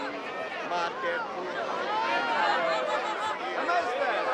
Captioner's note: speaking in illyrian language